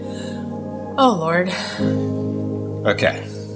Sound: sigh

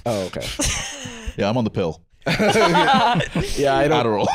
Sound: all laughing

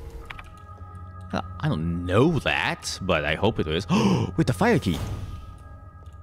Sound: gasp

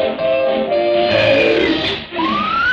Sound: croaking

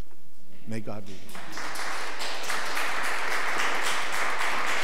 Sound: audience applause

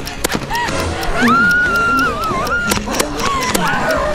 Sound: screams

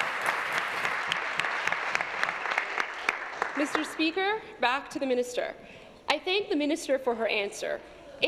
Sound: applause

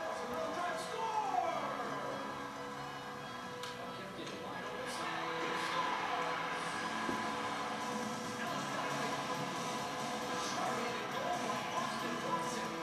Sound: applause

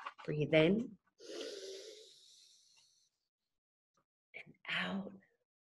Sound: pulling air in

